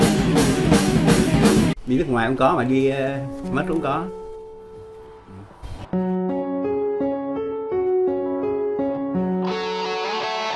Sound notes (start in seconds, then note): 2.3 speaking foreign language